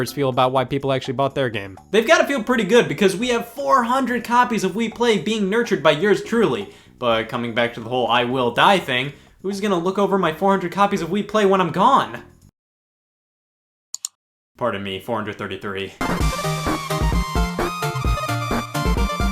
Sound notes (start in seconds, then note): 13.9 click; 16.0 video game music